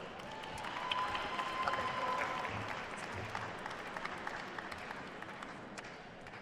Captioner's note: attendees cheering and applauding